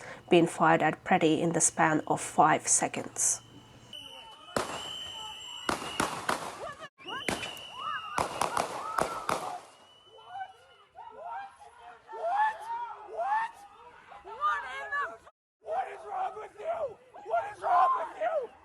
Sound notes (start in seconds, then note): 4.2 gunshots; 4.2 people screaming